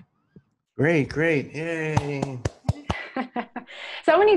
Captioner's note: applause; laugh